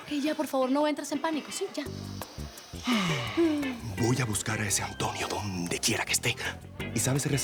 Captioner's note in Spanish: Él exhala